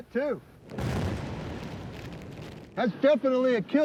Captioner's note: explosion